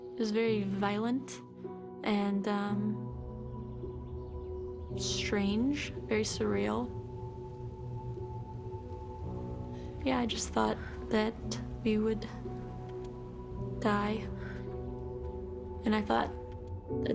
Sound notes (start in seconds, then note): none